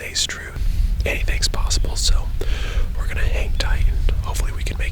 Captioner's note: whispering